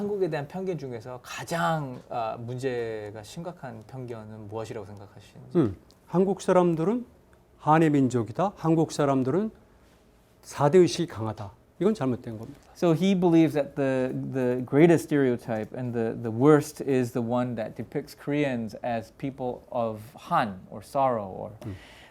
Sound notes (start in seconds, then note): 0.2 speaking in Korean; 6.1 speaking in Korean